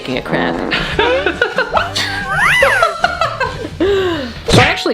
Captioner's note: giggling